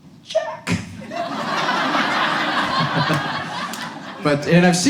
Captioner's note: audience laughs